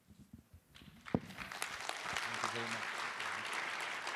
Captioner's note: applause